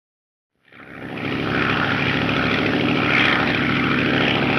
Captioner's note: plane engine droning